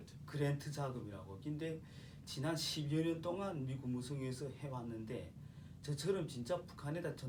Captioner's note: speaking korean